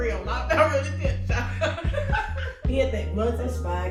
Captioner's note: laughs